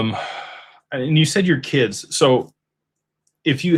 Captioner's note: sighs and gasps